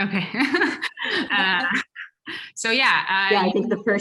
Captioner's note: laugh